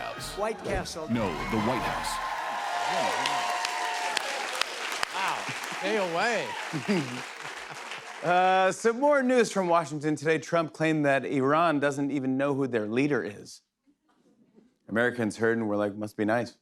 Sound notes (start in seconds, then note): 2.4 cheers and applause; 6.7 chuckles